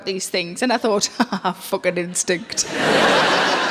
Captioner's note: audience laughing; chuckles